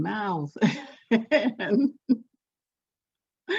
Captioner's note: laughs